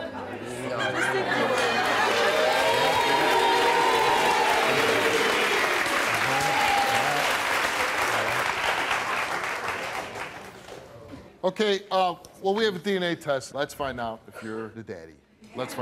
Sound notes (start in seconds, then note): 0.0 audience laughs; 2.6 audience applauds